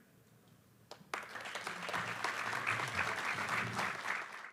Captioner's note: applause